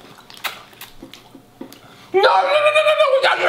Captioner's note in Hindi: चटकारे लेते हुए